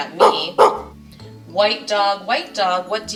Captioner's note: dog barking